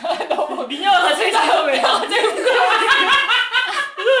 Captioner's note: laughing; laughs